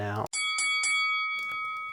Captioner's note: bell ding